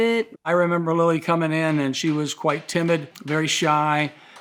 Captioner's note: hammer banging